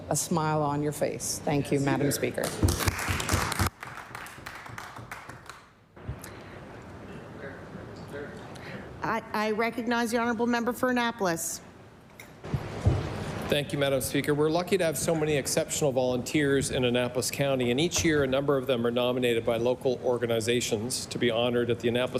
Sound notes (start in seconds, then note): 5.7 applause